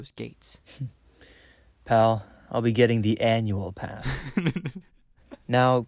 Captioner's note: chuckles; Mark laughs